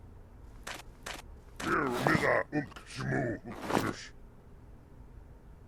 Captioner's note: very unfriendly alien talk